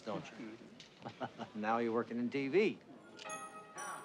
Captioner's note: laughs